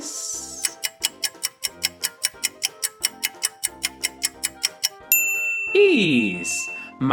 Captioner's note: A clock ticks and a bell sounds revealing the solution